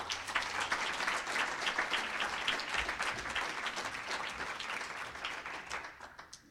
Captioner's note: applause